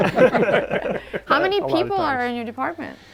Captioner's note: group laughing